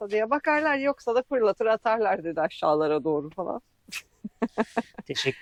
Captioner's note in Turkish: kahkaha